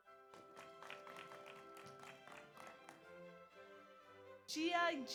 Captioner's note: audience applauds